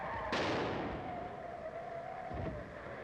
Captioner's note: explodes